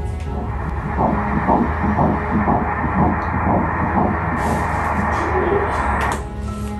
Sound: heartbeat

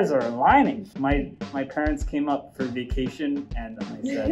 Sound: laughs

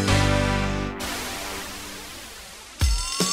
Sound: wind whooshing; upbeat music; sirens wailing

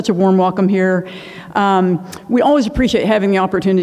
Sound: inhales; clicks tongue

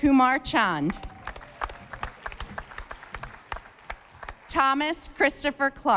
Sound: audience applauding

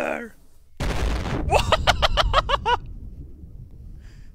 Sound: explosion, followed by laughing

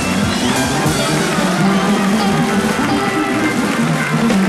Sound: audience cheers

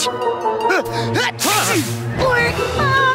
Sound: sneezing

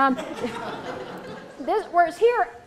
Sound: laughter

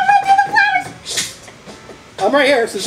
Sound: net whacks

